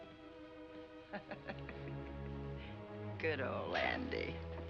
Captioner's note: laughing